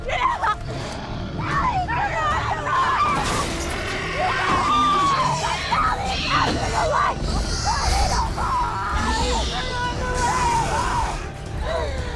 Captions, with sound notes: [ GLASS SHATTERING ] [ GROWLING ] GET IN THE CAR!